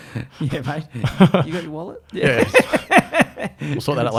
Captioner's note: laughing; laughs